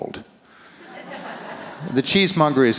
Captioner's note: audience laughs